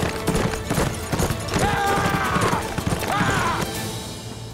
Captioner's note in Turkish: Bağırıyor